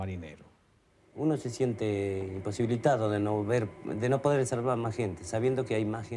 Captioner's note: man speaking in foreign language